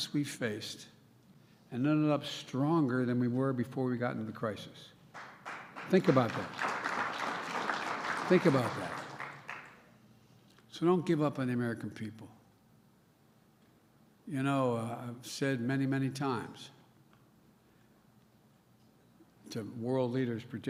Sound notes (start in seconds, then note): 7.6 applause